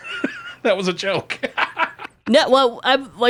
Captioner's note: laughs